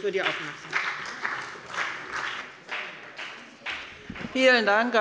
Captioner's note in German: Beifall bei dem BÜNDNIS 90/DIE GRÜNEN und der CDU